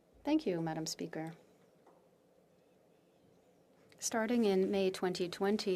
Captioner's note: speaking French